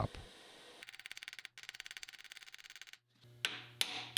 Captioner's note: metal clinking